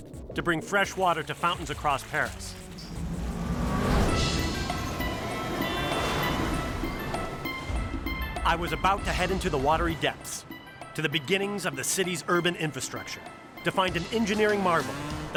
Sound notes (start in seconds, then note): 2.2 car whooshes; 4.9 car horns honk; 4.9 cars rev